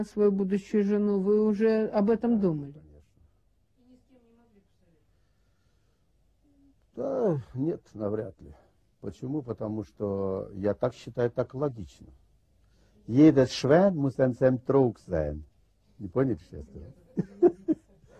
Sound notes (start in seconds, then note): 13.2 speaks German